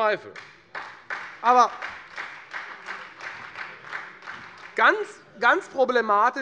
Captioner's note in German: Beifall